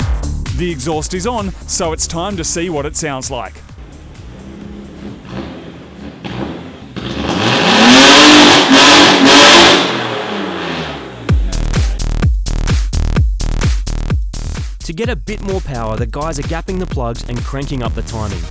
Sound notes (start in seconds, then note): 6.3 loud engine revving